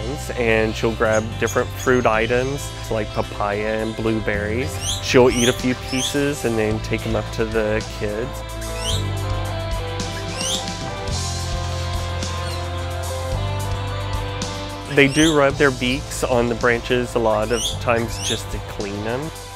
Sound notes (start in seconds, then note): 8.7 chirping